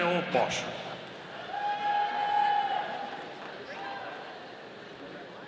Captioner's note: audience cheering